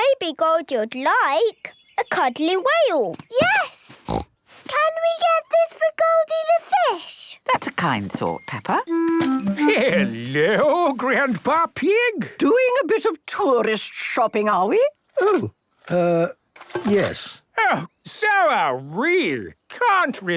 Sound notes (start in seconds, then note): 4.0 snorts